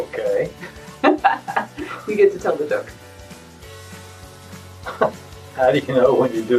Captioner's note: laughs